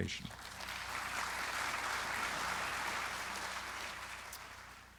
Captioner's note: audience applauding